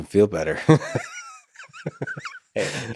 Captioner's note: Lex laughs